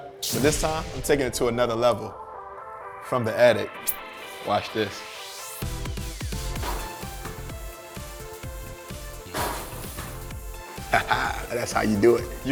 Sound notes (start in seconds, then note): 6.7 basketball falling through rim and net